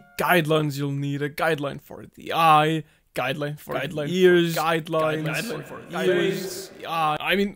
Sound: voice echoing

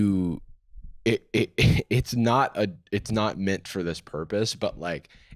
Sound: laughs

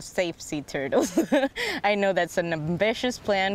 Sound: laughter

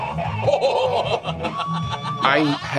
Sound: laughing

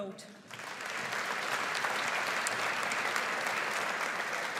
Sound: audience applauds

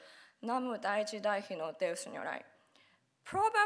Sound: speaking Japanese

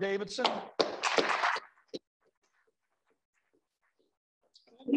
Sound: applause

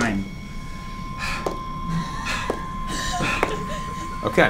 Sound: sighs

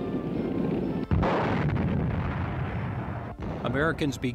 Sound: bombs exploding

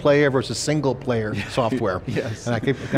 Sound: laughs

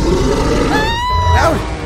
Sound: screams

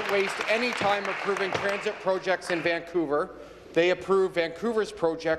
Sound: applause

